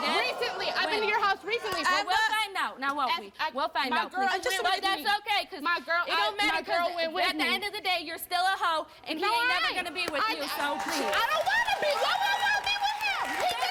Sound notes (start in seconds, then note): 4.5 both yelling